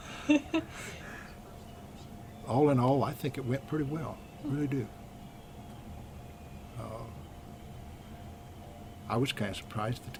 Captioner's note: laughs